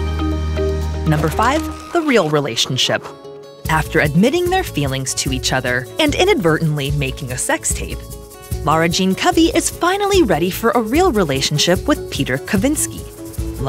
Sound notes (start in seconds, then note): 1.1 pen scratching